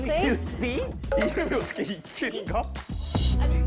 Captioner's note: mocking sound effect